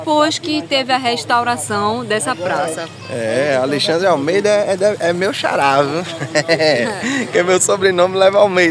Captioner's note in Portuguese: risadas